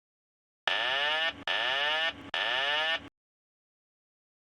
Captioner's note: alarm siren sounding